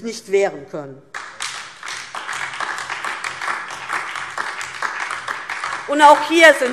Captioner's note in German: Beifall DIE LINKE